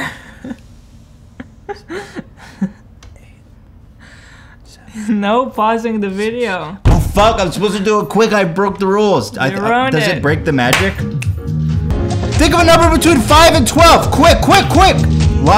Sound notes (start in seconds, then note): 1.4 laughing; 1.6 whispering